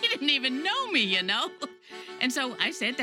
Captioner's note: laughs